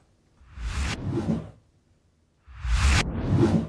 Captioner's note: logo whooshes